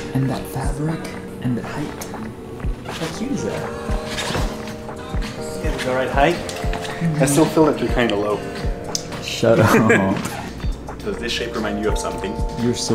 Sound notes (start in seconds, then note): 9.5 laughing